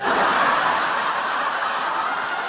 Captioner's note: laugh track